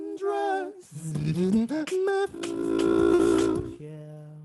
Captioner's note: beatboxing